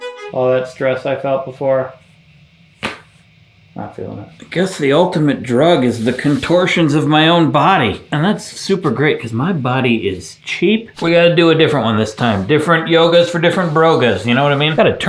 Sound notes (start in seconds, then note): 2.8 hand smacks